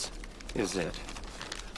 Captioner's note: paper rustling